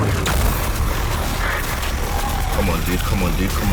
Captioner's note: lightsabers buzzing